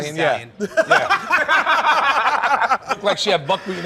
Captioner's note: laughter